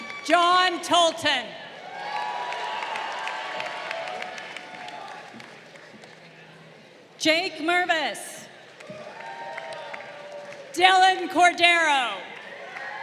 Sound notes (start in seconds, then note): 0.0 crowd cheering; 1.7 crowd cheering; 8.7 crowd cheering